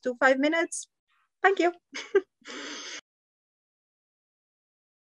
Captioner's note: chuckles